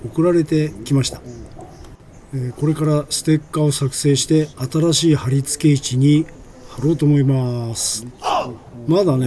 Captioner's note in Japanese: おうっ！